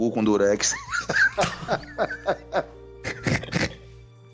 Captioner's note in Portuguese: Risadas